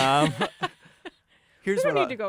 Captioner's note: laughter